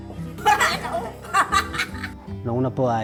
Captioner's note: laughs